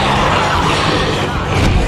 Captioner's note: alien roaring